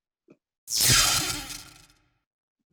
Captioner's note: zap